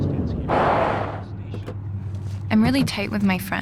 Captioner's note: car brakes suddenly, doors open